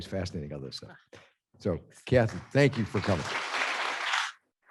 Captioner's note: applause